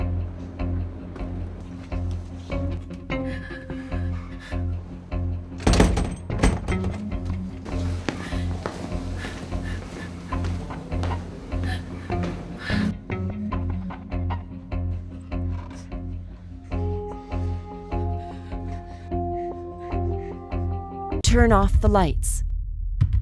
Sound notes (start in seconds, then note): 5.5 door rattling